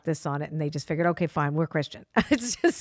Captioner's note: laughs